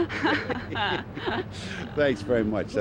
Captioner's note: both laugh